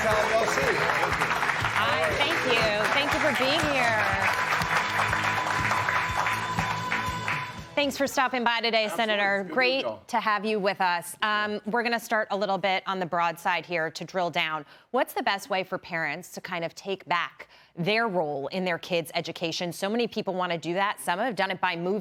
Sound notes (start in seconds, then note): 6.7 applause